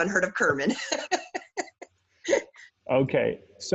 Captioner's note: laughs